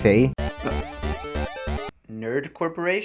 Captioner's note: phone ringing sound